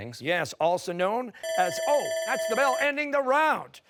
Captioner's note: timer